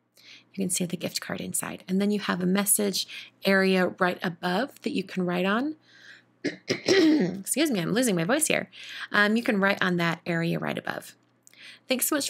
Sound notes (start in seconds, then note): 6.4 clears throat